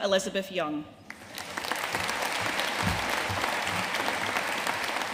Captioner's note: audience applauding